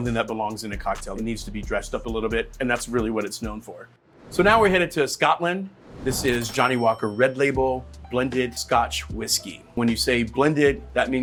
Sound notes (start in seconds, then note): 5.7 whoosh; 6.2 cash register dings